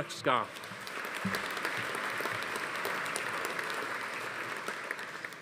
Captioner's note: audience applauding